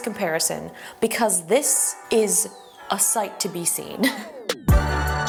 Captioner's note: laughs; upbeat electronic music